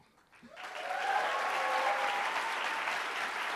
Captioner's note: applauding